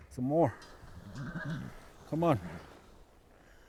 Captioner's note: horse whinnies